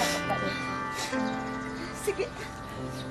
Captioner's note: both sniffling